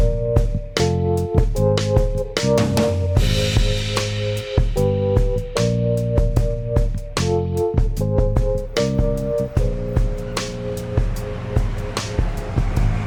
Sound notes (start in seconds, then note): 8.6 city traffic